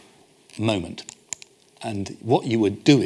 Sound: clicks

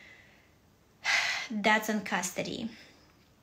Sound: sighs

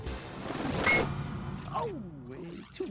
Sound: metal clangs

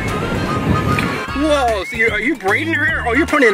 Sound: voiceover

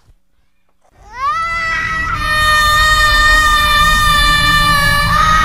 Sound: screaming

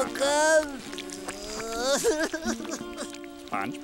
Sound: crying

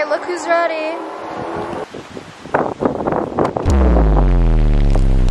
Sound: loud cars accelerating

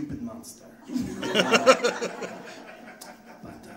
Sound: audience laughing

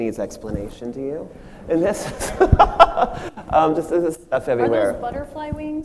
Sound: machine laughs

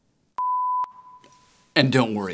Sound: beep

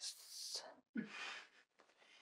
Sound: Mickey chuckles

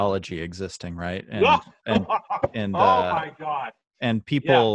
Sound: laughing

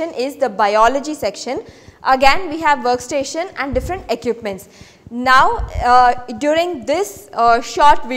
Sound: vibration

